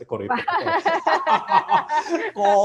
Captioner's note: laughs